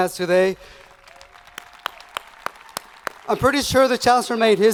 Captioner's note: students cheering